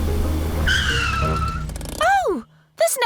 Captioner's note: tires screech